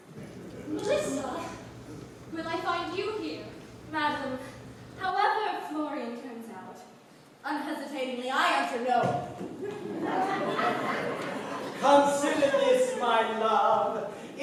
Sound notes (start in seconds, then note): 9.5 laughter